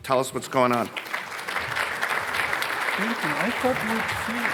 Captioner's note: audience applauding